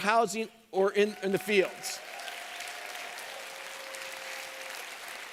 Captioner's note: applause